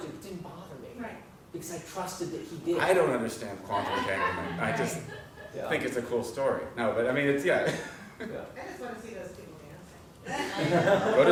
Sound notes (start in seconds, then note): 3.7 laugh